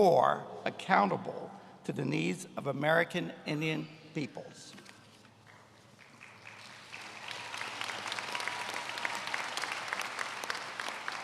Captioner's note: applause